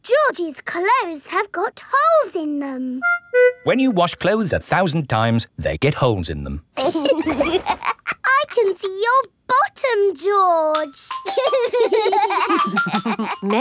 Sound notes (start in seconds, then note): 6.8 laughs; 11.3 giggling